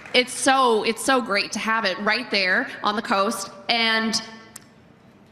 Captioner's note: applause